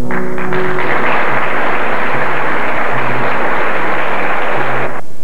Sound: applause

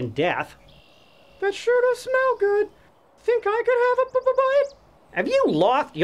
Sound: stuttering

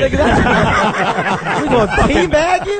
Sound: all laugh

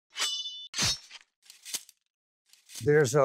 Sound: swords slashing

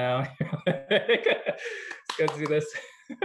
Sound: laughter

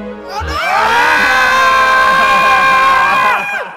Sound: screaming

